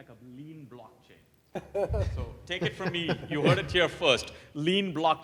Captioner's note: laugh